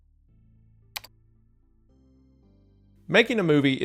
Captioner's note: mouse clicks